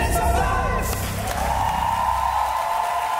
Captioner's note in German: Jubel, Applaus